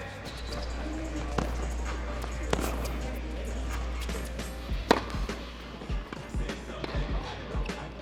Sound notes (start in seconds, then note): 0.0 ball thuds; 0.0 upbeat music